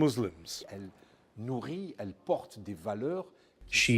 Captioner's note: through translator